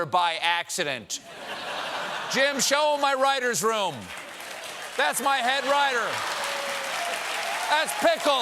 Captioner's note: laughter